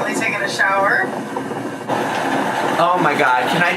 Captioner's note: machine whirring